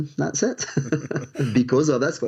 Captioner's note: both chuckle